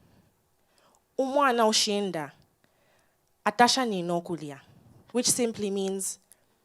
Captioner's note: speaks in foreign language